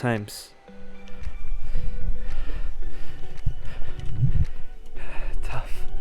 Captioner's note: breathing